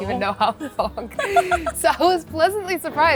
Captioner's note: laughing